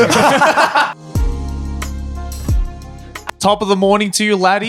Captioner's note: laughing; upbeat music